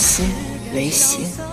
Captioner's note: thunder strikes